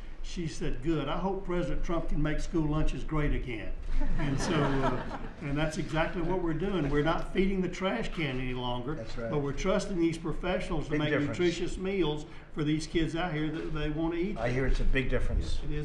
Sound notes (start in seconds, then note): 3.9 laughter